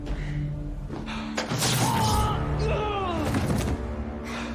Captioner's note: electricity crackling; screams